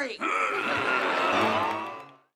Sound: groaning

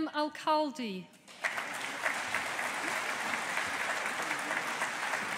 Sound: audience applauding

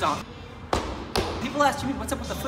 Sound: feet stomping

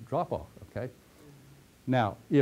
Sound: pause

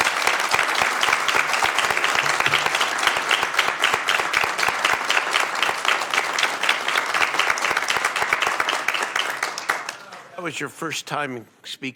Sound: applause

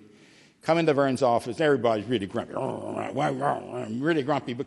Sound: grumbling sounds

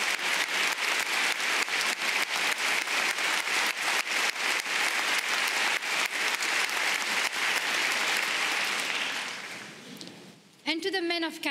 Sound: applause

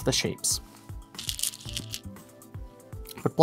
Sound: stones rattling

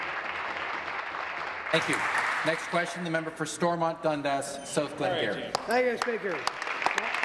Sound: applause

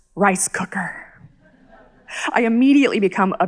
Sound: audience chuckles softly

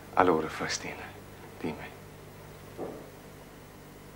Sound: speaks Italian

